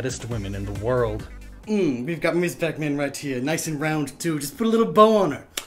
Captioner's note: tsk